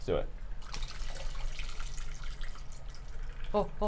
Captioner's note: liquid pouring